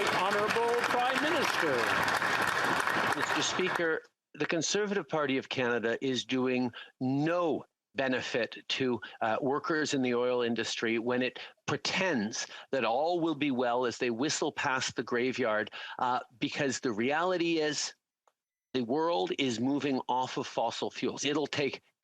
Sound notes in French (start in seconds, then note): 8.9 voix de l'interprète